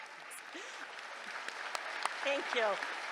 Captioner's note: applause